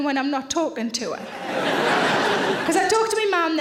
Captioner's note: audience laughing